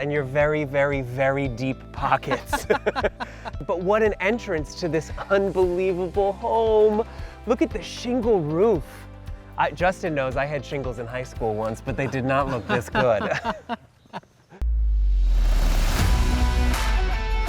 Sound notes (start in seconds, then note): 2.0 laughing; 11.8 laughing; 14.6 intense music